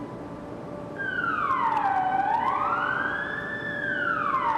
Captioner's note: siren sounding